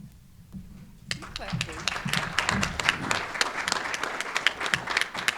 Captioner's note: audience applauding